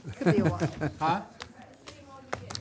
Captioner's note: laughs